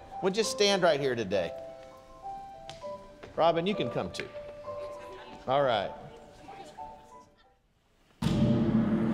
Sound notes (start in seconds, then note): 5.2 congregation laughing